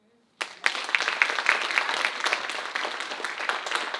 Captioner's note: audience applauding